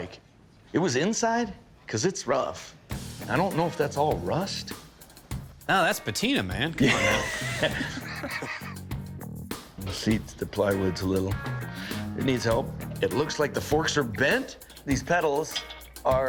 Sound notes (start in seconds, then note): 6.8 laughter